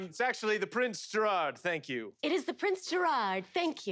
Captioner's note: none